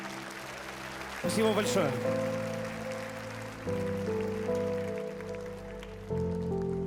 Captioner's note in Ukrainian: оплески